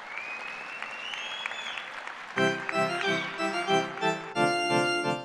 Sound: cheers and applause

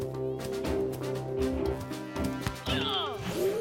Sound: grunting; crowd gasping

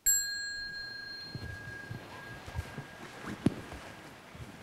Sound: bell rings

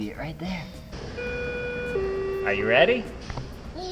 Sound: bell chime

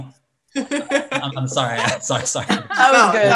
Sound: laughs

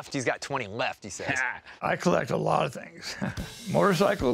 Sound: chuckles

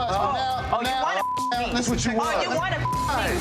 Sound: beep

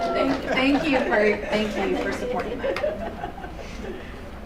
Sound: chuckles

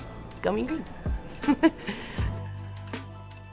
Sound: chuckling; lively music

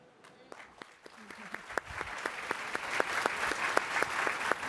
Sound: applause

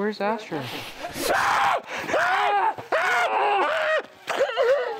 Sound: screaming

